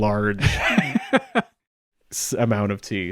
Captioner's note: laughs